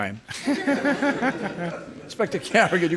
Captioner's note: crowd laughing